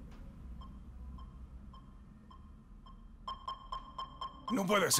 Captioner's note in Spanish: Localizador de John suena